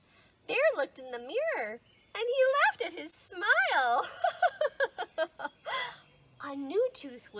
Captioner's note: laughing